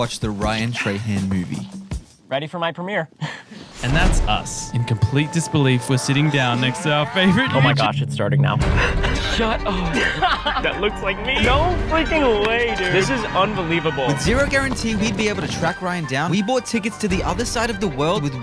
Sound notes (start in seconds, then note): 3.2 sighing; 3.3 chuckling; 8.7 chuckling; 9.3 upbeat music